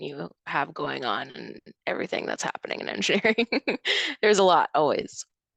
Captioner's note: chuckles